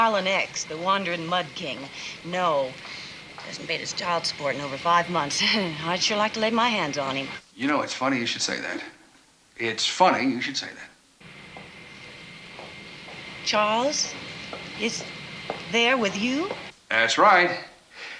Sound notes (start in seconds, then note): 4.8 chuckles